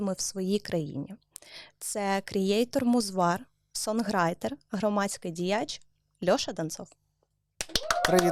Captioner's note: clapping